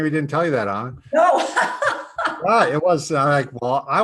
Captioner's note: laughing